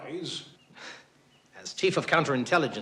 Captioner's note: chuckles